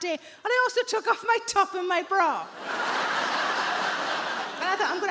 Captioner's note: audience laughing